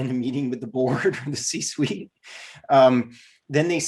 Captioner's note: laughs